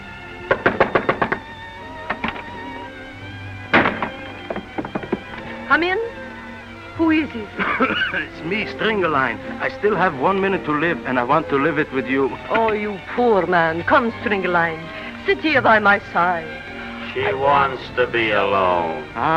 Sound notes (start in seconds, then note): 0.4 knocks on door; 7.5 coughs